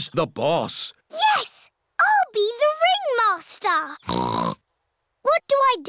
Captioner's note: snorts